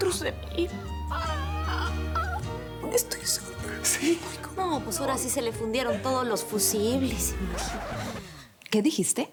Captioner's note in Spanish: En voz baja